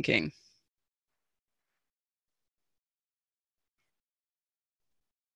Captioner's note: silence